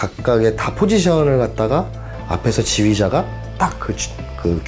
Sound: upbeat electronic music; speaking in foreign language

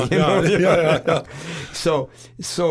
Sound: both laughing

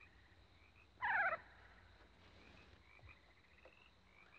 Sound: Freckles cooing

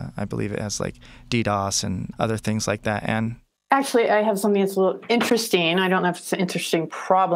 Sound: none

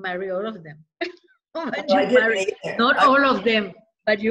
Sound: laughter

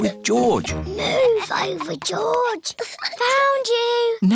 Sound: whispers

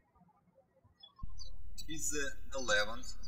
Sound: birds chirping

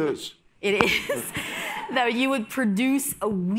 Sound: audience laughs

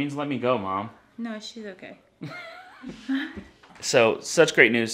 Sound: chuckling

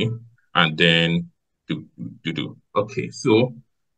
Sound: vocalizes

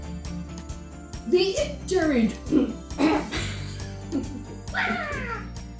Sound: clearing throat

